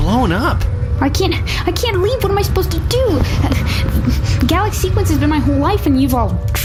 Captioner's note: crying